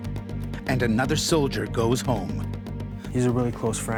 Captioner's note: voiceover